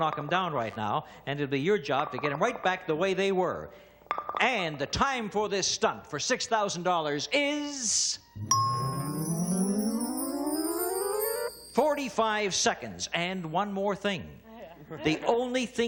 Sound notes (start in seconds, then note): 11.4 ringing; 14.8 laughter